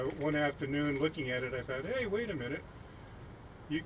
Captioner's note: none